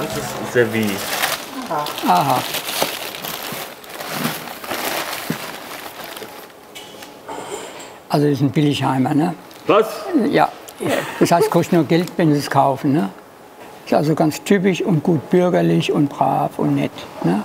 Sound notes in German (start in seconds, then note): 4.0 Rascheln